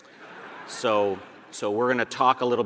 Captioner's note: audience laughing